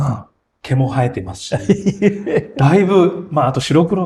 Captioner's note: laughs